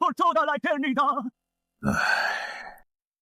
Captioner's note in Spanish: Suspiro